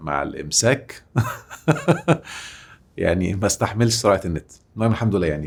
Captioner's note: laughs!